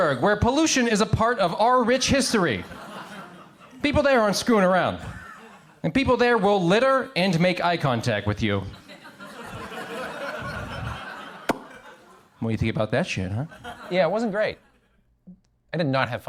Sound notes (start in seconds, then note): 8.6 crowd laughs; 11.4 pops lips